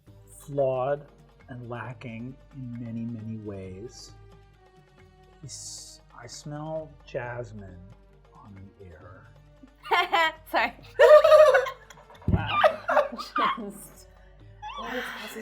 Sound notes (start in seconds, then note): 10.8 laughing